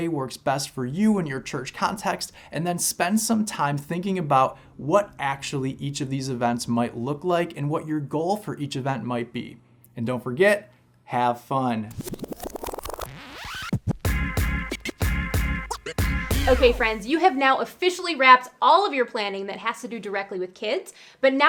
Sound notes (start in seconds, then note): 11.9 digital effects; 12.7 upbeat music